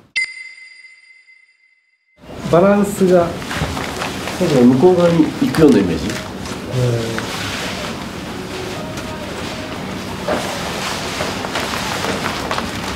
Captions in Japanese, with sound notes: [ピックアップ 効果音] バランスが・・・ 手が、向こう側に、 行くようなイメージ？ うーん。 [衣ずれの音]